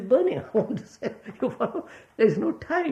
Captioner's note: laughs